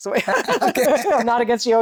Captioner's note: laughter